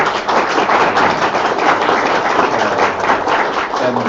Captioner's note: audience clapping